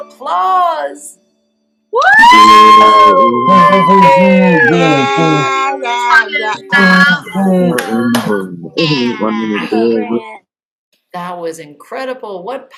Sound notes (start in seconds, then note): 2.0 cheering